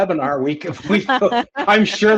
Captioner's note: chuckling